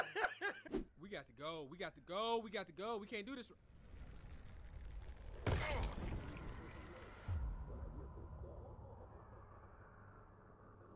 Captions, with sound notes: (laughing) - We got to go, we got to go, we got to go! We can't do this! (whooshing and grunting)